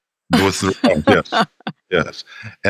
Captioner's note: laughter